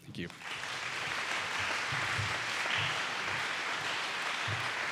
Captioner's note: audience applauding